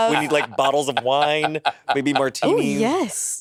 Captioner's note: Monét laughing